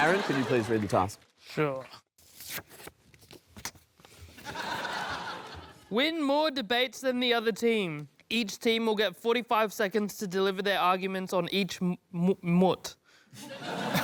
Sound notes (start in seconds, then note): 4.3 kisses